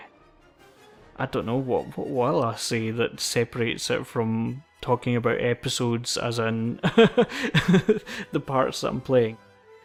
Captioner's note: laughs